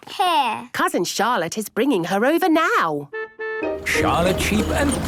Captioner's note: honking